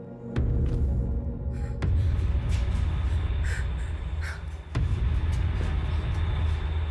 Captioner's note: ominous music; Ellie gasping